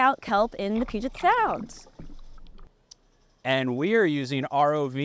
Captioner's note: water splashing